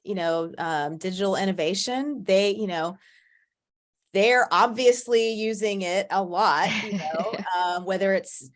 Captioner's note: laughs